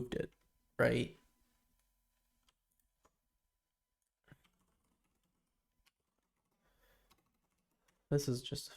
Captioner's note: silence